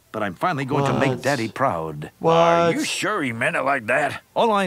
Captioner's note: none